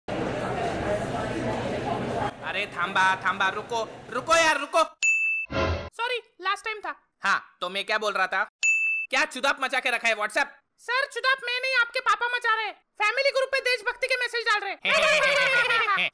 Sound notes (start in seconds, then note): 0.1 crowd sound; 5.4 message sound; 14.8 laughing sound